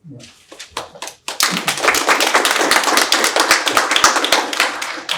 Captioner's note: audience applauding